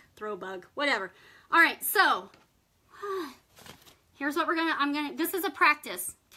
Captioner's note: sighs